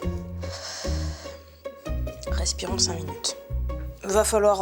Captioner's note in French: soupir